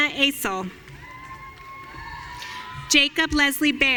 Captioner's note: audience cheering